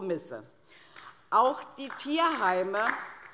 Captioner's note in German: Beifall DIE LINKE